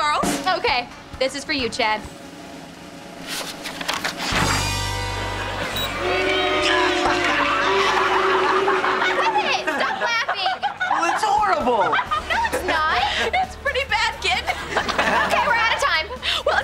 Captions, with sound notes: Okay, this is for you, Chad. [booing] [laughing] Quit it! Stop laughing! But it's horrible. No, it's not. It's pretty bad, kid. - Okay, we're out of time. - Well, it's only--